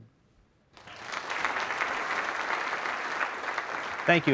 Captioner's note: applause